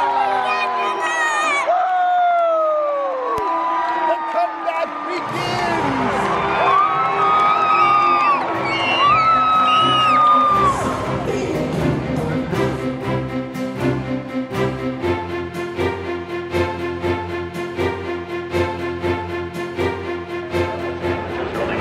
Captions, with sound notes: - I think that's enough. - Woo! The come back begins. (cheering) - Woo! Woo! (dramatic music)